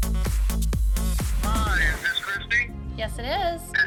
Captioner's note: man over phone